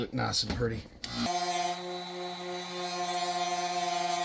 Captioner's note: whirring